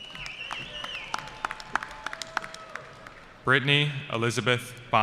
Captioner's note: applause